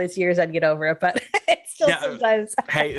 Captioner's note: laughs